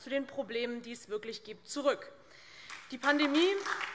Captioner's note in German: Beifall DIE LINKE und vereinzelt SPD